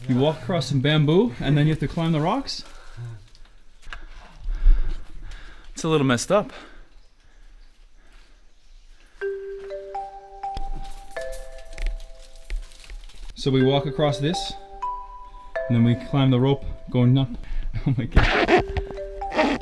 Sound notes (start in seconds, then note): 6.5 breathing heavily; 9.2 light music; 18.2 squeaking